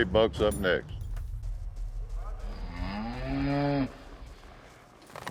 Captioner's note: cow moos